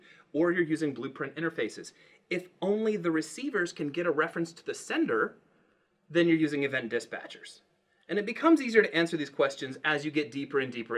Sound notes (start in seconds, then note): none